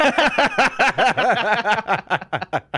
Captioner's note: laughing